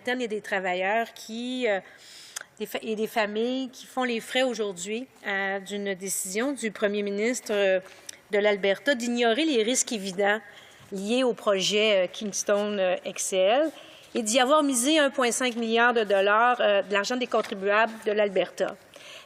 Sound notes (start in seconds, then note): 1.0 speaking French